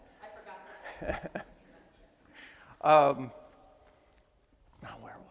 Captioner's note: attendees laugh; chuckles